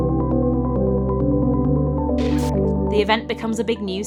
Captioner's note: glitch